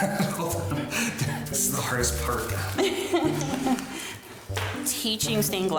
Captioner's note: chuckles